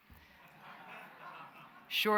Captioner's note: laughter